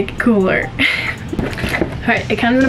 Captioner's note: laughs